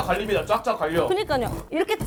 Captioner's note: scratching